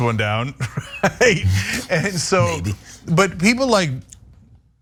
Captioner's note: laugh